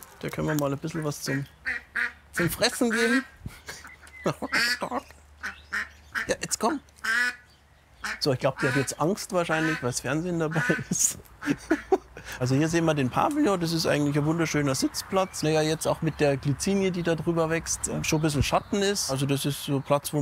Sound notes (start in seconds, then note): 3.4 croaking, laughter; 6.0 croaking